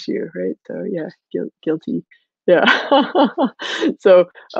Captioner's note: laughing